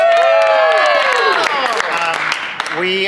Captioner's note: cast cheers and applauds